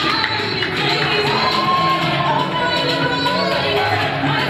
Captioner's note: scattered applause